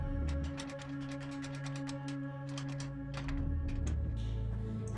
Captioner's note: door handle rattling